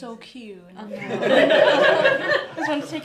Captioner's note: laughter